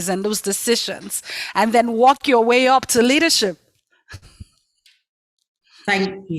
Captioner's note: laughs